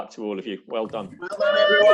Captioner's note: students cheer